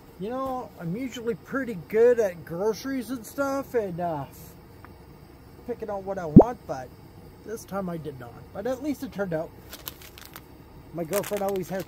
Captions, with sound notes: You know I'm usually pretty good at groceries and stuff and uh picking out what I want but this time I did not. But at least it turned out. [crunching] My girlfriend always has